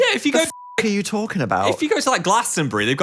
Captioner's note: beep